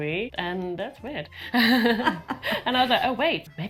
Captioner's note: everyone laughs